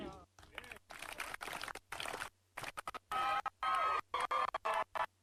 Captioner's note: people applauding